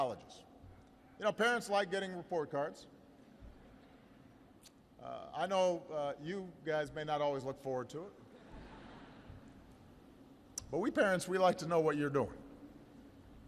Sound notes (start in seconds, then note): 8.3 laughter